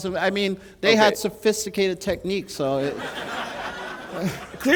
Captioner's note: laughter